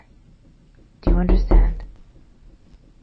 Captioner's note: knocking